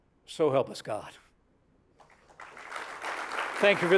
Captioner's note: applause